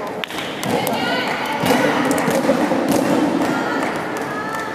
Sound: applause

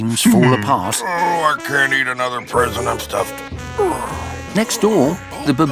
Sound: groans

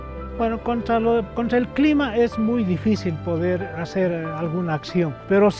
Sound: speaking in foreign language

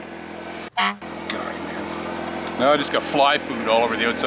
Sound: car horn honks

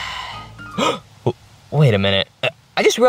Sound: gasps; sighs

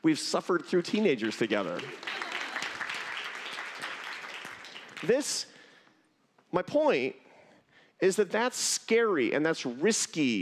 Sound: applause

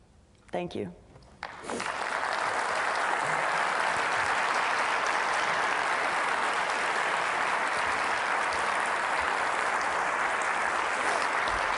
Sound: applause

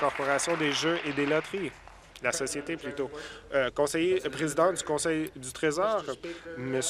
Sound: applause

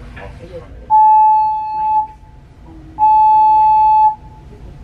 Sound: tone beeping

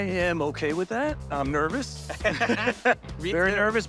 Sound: laughs

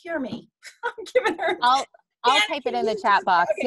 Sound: laughing

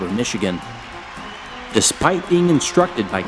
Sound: crowd cheering

